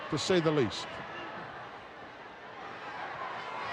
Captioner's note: crowd yelling